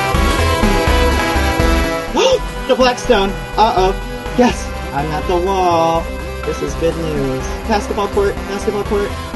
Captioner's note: gasp